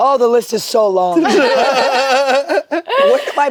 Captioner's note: group laughs